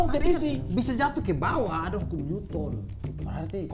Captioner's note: giggling